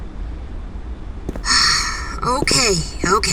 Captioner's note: Ash sighs